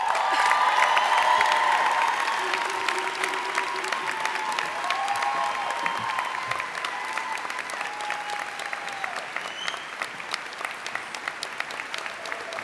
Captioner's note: cheers